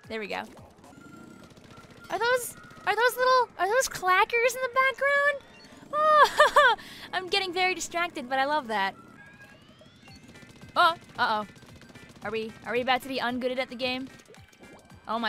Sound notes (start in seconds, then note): 5.8 laughs